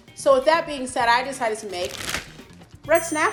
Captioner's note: plastic crinkles; bell dings